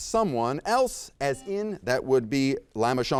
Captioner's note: buzzer beeps